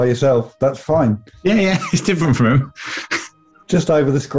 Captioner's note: laughing